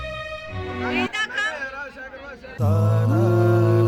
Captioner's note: distant voice